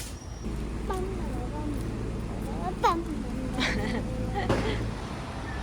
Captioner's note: hums